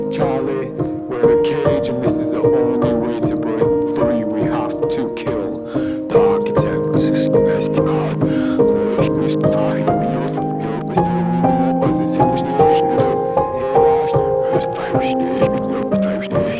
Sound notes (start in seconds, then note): 10.3 interference